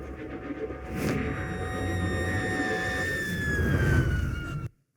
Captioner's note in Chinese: 尖叫